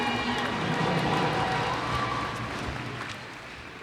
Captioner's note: cheers and applause